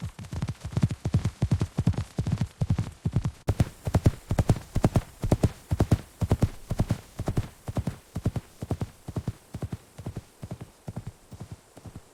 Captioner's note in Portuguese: som de cavalgada